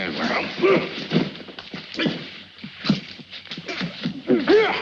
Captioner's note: both grunting